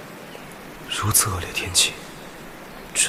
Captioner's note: it's raining heavily